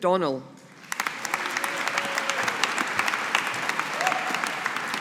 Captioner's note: audience applauding